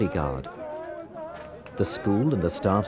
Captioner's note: journalists shouting